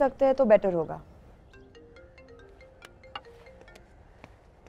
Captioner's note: Phone ringing